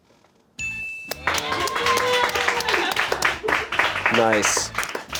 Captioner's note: bell chimes; crew applauds